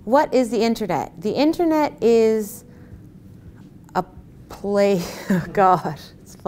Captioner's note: laughs